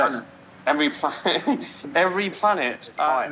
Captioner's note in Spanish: risas